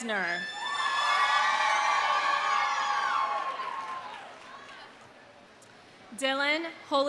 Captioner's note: audience cheering; audience applauding